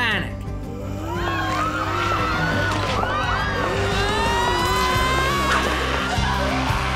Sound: growling; crowd screaming

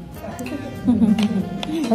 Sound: laughing

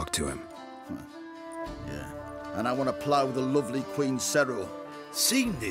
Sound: scoffs

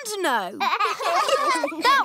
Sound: laughter

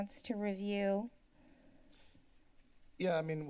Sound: silence

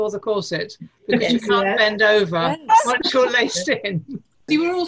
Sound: laughter

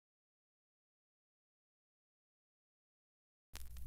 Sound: vinyl crackling

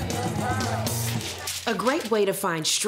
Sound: papers rustling

